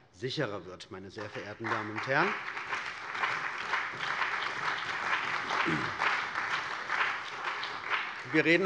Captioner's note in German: Allgemeiner Beifall